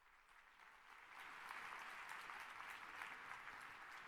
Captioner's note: applause